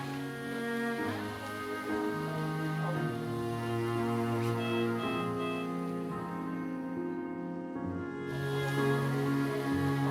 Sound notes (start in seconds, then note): 2.4 worrisome music; 4.7 machine beeps